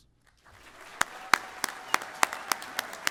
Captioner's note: applause